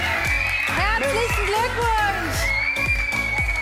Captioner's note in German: Jubel und Applaus